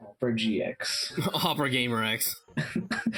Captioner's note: chuckles; chuckling